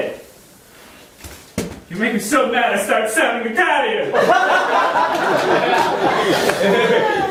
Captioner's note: audience laughing